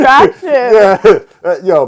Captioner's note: laughs